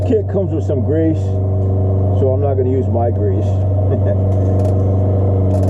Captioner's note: laughing